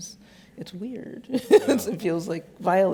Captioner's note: laughs